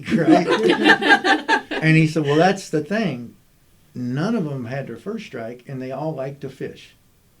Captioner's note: laughter